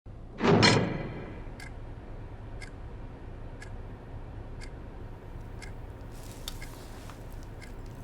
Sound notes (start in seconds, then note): 0.4 door slamming; 2.5 clock ticking